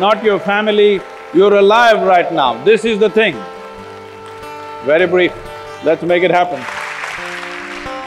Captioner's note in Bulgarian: Ръкопляскания